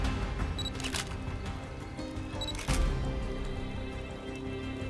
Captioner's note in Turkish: Deklanşör sesi